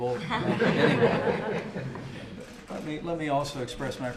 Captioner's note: laughter